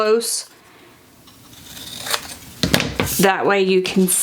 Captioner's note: paper crunching